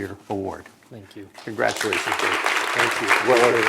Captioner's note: applause